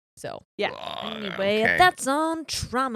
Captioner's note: groans